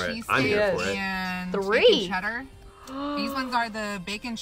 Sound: gasps

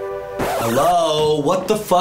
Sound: record scratch sound effect

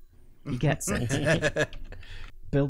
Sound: laughter

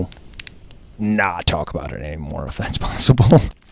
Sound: laughs

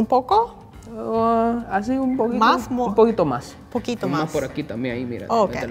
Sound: speaking in foreign language

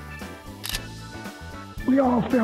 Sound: trigger cocking

